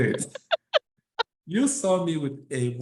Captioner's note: laughs